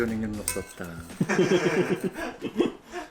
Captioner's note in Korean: 웃음소리